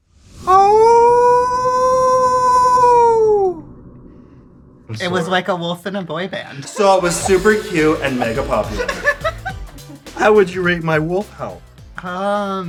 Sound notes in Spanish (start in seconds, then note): 0.6 aullido; 10.0 risas